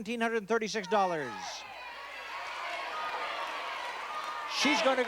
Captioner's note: chatter